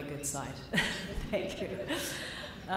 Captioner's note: laughter